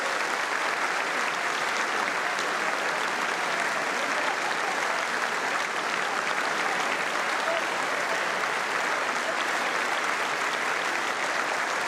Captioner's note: applause